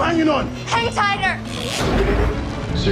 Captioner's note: robot whooshy sounds